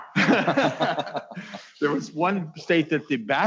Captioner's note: laughing